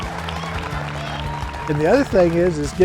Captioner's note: cheers